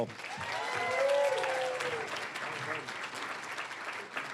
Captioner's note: cheering, applause; applause